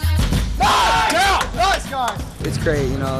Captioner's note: cheering